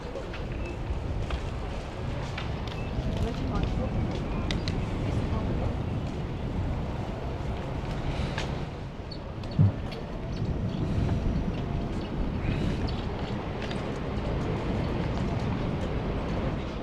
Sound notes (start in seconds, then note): 3.5 wind Blowing